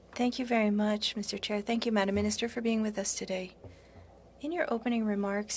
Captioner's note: speaking French